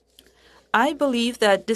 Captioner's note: speaking French